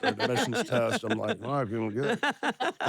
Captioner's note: laugh